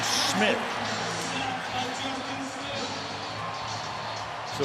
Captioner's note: pa announcement